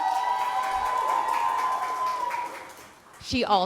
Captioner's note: cheers and applause